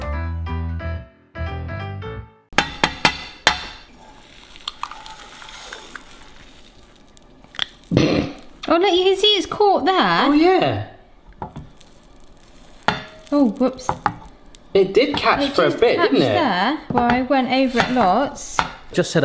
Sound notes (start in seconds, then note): 0.0 cheerful piano music; 2.5 egg knocking; 4.5 shell cracking; 6.7 pan sizzling faintly; 8.1 snickers